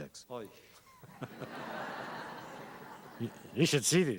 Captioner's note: laughter